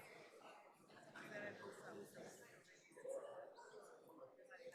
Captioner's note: crowd chattering